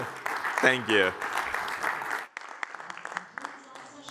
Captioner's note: applause